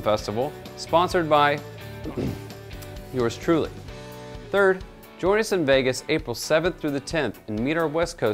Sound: ahem

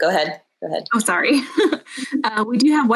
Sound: laughing

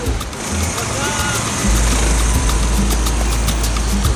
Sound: engine sound

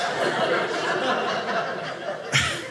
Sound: audience laughing

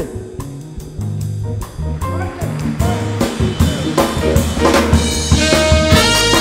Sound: applause

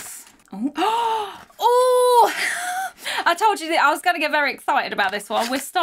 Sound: gasps

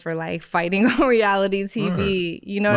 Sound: laughing

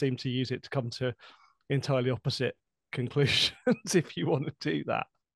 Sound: laughter

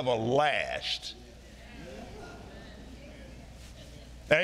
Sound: audience murmuring

